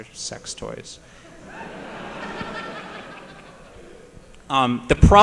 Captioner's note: laughter